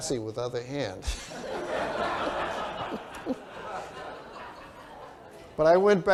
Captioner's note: laughter